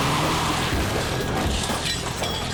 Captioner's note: tires squealing; glass breaking